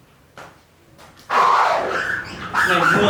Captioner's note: skrrrrrrrr